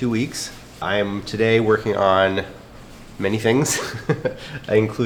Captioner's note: laughs